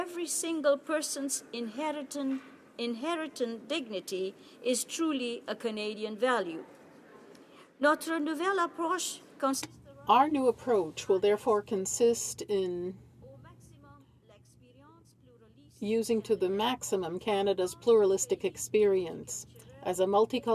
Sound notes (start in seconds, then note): 16.3 speaking French